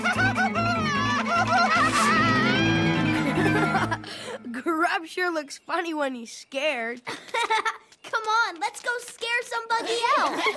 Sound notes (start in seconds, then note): 3.5 laughs